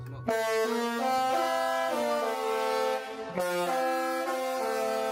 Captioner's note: horns blare; upbeat horn music